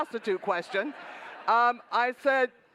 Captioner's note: laughter